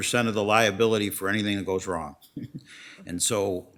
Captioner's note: laughs